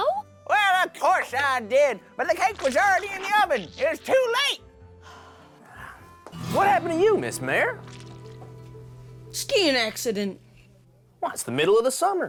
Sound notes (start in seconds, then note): 5.0 sighs